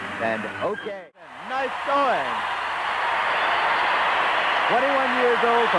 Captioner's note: crowd cheering